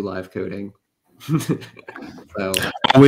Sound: laughs

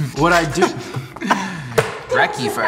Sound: laughs

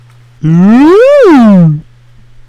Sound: buget slide whistle

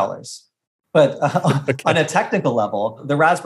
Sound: laughing

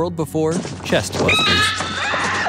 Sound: shrieking; woman screaming

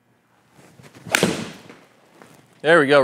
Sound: golf club hitting

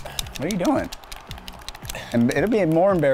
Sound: controller buttons clicking

